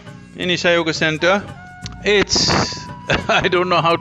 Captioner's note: laughs